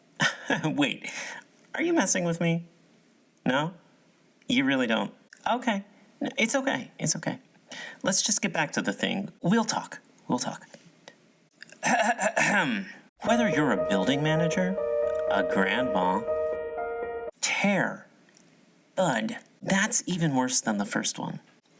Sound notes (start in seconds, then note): 11.7 clears throat; 13.2 moving music